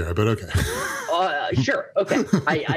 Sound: laughs

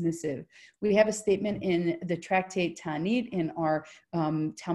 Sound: in foreign language

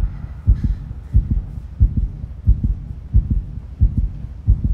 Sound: heart beating

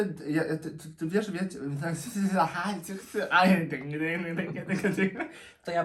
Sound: speaks gibberish

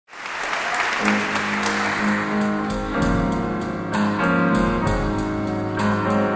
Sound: audience clapping; soothing music

